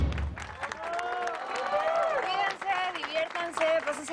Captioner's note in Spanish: Aplausos y exclamaciones